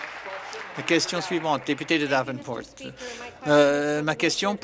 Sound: some Applause

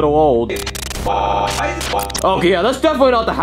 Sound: voice glitching

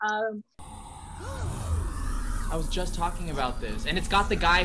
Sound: gasps

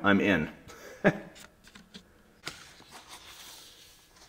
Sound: instructor laughs

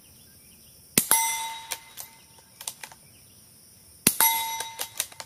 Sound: metal ding and gun reloading

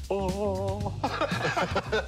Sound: laughing

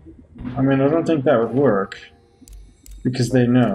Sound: none

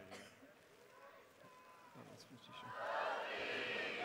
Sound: chanting

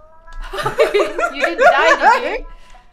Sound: both laughing

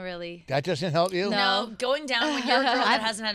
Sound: girls In Unison

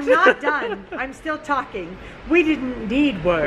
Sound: laughs

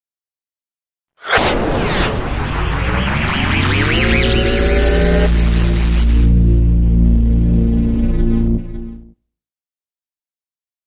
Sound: sound of science fiction

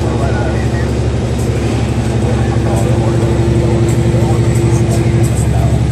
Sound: CB radio talking

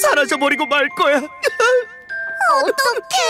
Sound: crying

